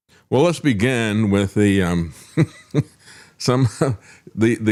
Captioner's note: laughs